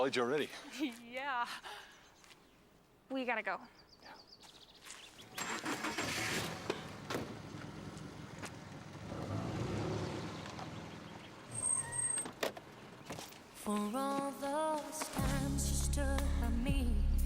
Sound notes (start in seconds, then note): 5.6 motor sputtering; 7.4 motor rumbling; 11.5 shrill squealing